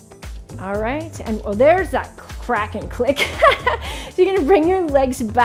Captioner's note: laughs